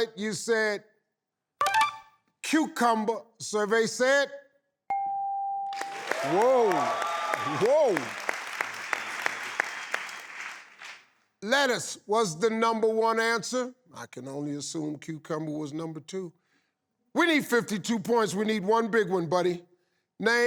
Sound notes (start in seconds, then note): 1.7 tinkling; 4.9 bell dinging; 5.7 audience applauding